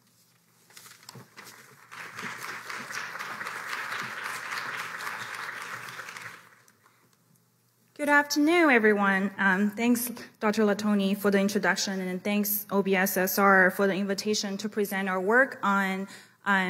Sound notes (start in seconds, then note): 1.4 applause